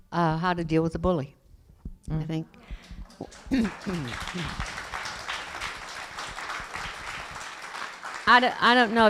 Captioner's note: applause